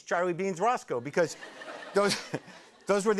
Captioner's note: laughter